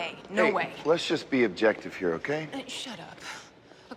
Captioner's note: none